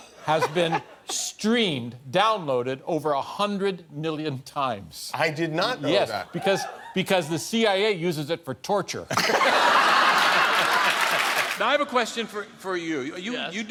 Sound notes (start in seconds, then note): 9.1 laughter